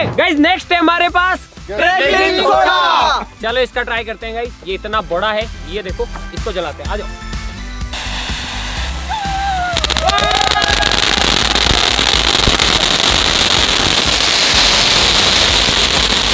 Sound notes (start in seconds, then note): 9.5 crackling sound